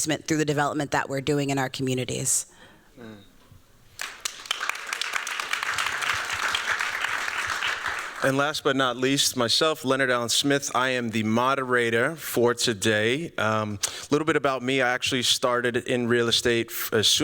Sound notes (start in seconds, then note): 3.9 applause